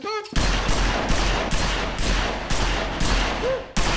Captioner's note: banging